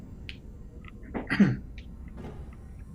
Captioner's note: coughs